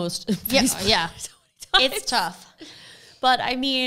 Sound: laughs softly

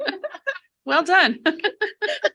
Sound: board members laughing

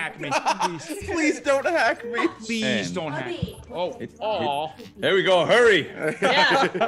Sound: laugh

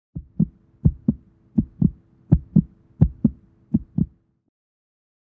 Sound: heart beat

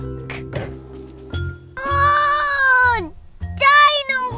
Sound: groaning

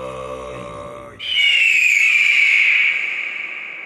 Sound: low throat singing; bird cry

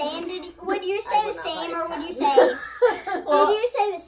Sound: laughs

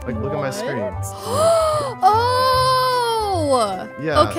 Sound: gasping happily

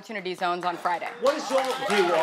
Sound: audience applauding

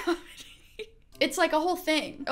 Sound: chuckling

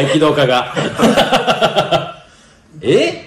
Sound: laughs

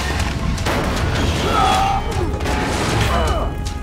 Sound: groaning

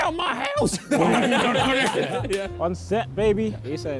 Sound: Sidemen laughing

